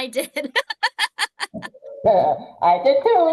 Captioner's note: people laugh